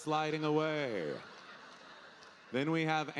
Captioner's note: audience laughing